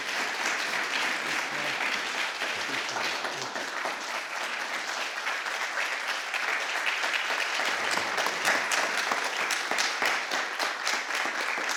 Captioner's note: applause